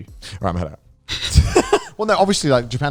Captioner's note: laughing